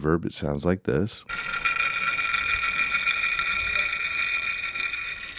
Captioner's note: stopping sound